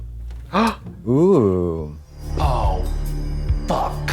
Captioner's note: Trixie gasps